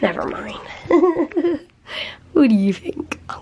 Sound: giggling

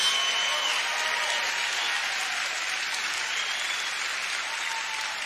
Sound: audience cheers continuously

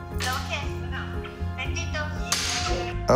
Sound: speaks in spanish

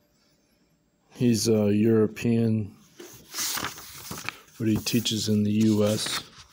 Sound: Polish

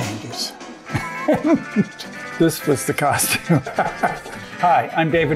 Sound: laughs

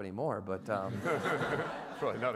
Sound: everyone laughs

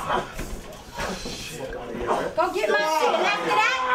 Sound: screaming

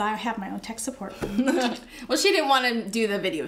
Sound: chuckles

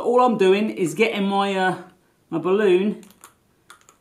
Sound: none

